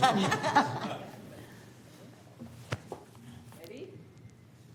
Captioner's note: laughter